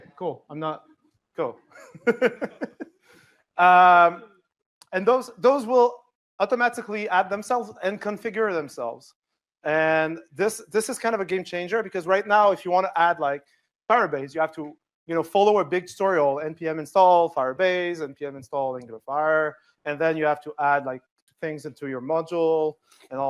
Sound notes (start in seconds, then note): 1.7 laughter